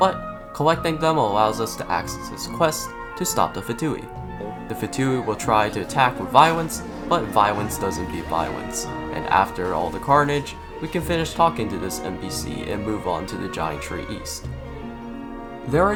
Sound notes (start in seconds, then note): 9.1 laugh